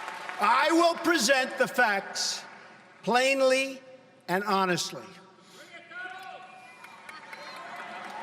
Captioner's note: applause